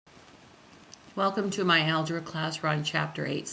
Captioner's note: voiceover